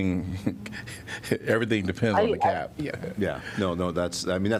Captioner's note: laughter